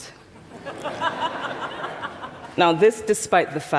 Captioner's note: laughter